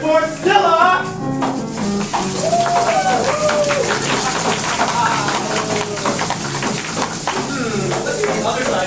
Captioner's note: shaking rattles, soft cheers